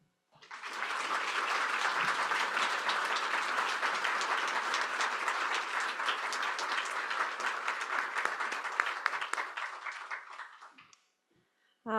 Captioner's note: applause